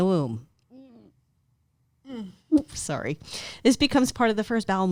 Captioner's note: hums in disgust